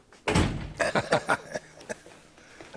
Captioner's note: door slams; laughing